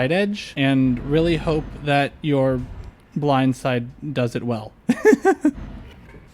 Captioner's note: laughter